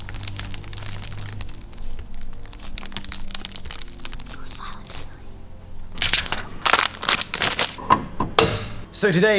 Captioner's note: paper crinkling